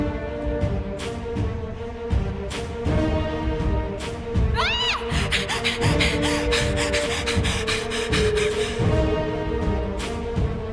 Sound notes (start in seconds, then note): 0.2 scary music; 4.5 cry; 4.9 rough breathing